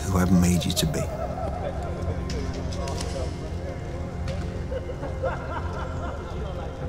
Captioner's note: men chattering; men laughing